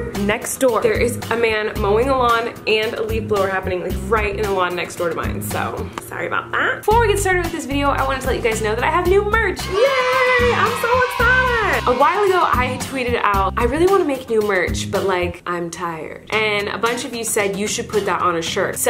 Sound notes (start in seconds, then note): 9.6 crowd cheering